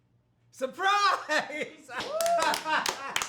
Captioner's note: laughing; family clapping